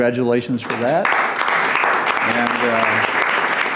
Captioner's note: applauding